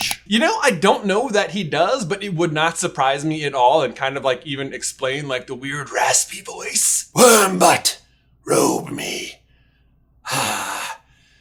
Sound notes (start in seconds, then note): 5.9 Voldie voice